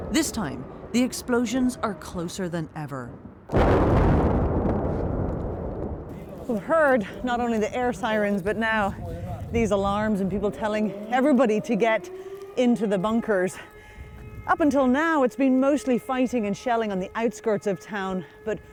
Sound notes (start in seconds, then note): 3.4 explosion rumbles; 11.2 siren wailing